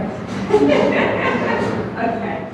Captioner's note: chuckles